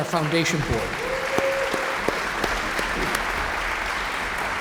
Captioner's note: audience applauds